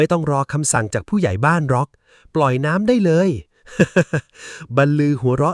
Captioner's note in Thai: เสียงหัวเราะ